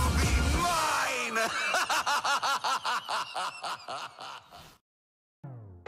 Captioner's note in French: rire sadique